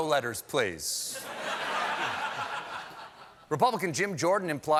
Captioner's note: laughter